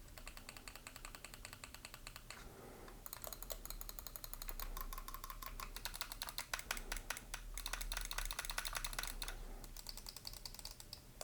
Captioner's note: mouse click noises